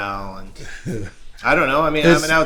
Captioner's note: laughter